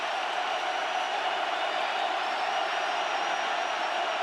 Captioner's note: crowd cheering